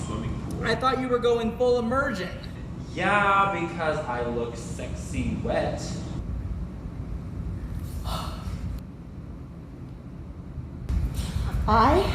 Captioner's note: sighs